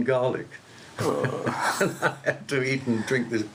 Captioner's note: laughs